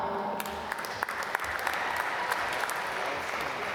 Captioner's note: applause